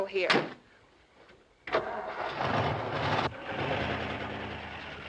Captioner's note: engine revs